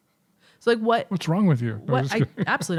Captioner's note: chuckling